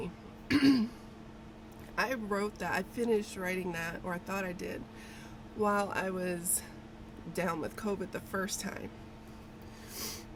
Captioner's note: clears throat; sniffles